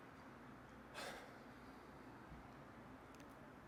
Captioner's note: exhales